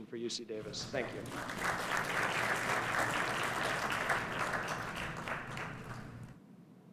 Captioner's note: applause